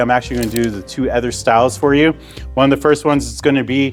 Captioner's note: graphic whooshes